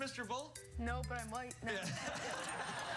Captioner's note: laughter